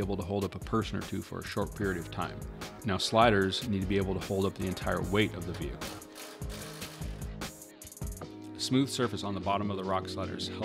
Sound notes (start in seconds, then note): 5.8 driller grinding